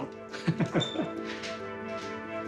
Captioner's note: laughs